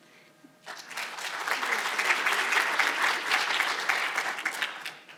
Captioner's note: audience applauding